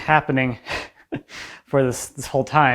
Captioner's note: presenter chuckles